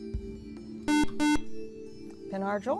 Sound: buzzer

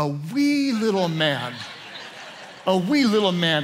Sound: congregation laughing

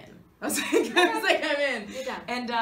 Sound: Kathryn laughs

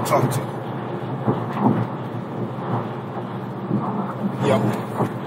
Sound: car noise

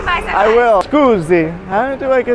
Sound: speaking Italian

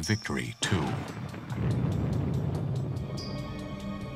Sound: explosions

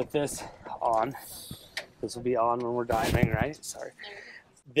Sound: none

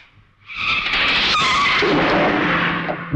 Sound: brakes squeal

